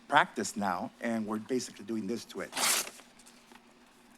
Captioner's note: paper tears